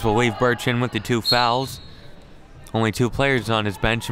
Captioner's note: referee blows whistle